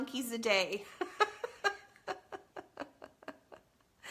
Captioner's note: laughs